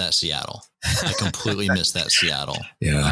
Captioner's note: laughter